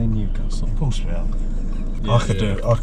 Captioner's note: chuckling